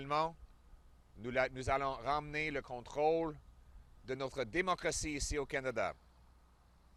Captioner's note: French